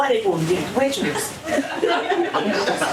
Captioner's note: laughter